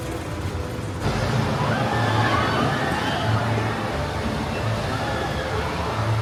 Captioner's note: roller coaster wheels thundering continues